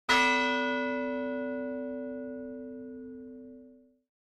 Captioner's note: bell rings